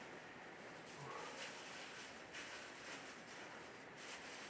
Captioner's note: Mercer exhales softly; paper rustling